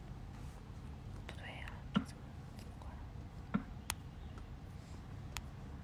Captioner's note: whisper: Exactly. How to turn that off?